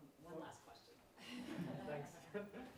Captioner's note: audience laughing